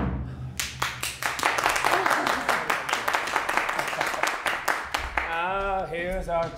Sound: applause

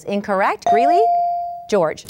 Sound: ding

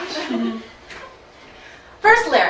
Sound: audience laughing

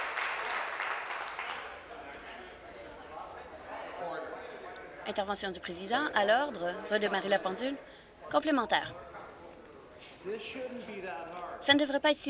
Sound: some Applause

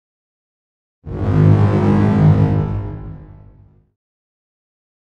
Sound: distorted sound

